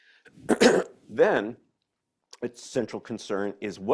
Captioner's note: clears throat